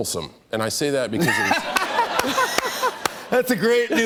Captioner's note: laughter